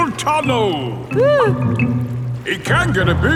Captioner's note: whimpers